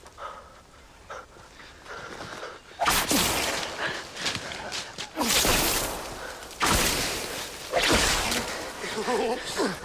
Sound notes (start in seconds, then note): 2.8 wands firing